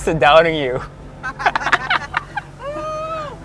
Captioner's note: giggles